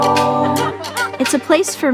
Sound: all laughing

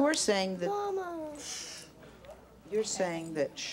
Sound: hushes

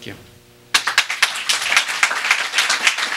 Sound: applause

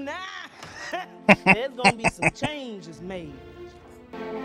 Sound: laughing

